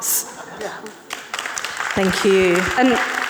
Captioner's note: audience clapping